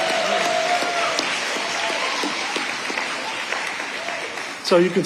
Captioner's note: audience applauding